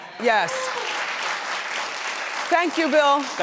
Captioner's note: audience applauding